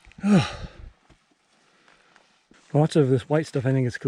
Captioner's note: sighs